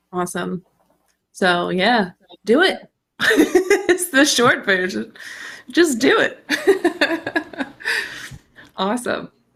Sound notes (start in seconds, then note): 2.7 chuckles